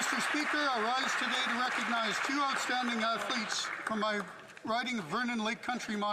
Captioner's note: applause